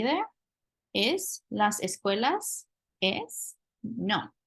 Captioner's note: spanish